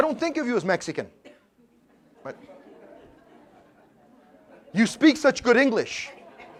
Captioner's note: laugh